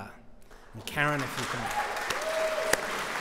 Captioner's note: applause